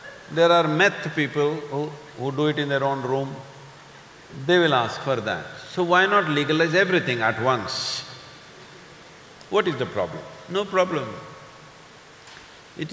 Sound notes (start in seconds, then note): none